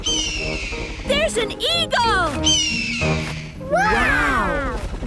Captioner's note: eagle shriek; eagle shriek